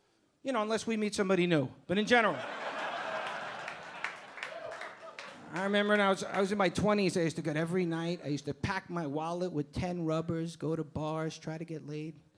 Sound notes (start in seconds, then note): 2.2 audience laughing